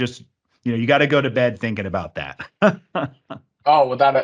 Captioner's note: laughs